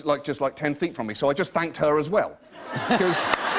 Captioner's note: laughter